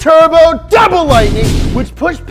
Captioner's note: 2 lightning bolt crashes